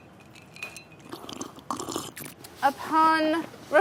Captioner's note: slurping